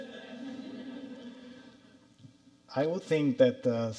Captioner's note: audience laughing